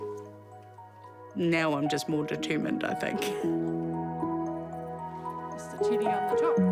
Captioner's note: chuckles